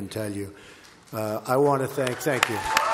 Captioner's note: applause